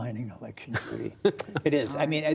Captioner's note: laughter